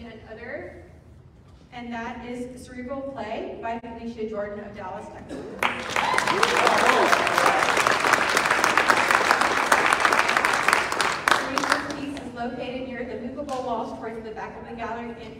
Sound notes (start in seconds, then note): 7.6 clapping